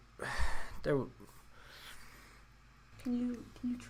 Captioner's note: sighs